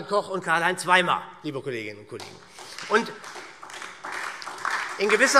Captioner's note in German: Beifall SPD und DIE LINKE